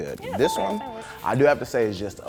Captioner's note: bell dings